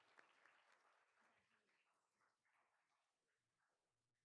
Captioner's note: all applauding